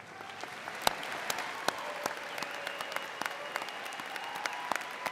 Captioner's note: audience cheers